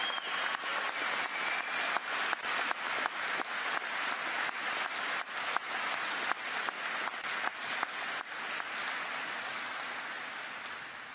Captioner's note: applause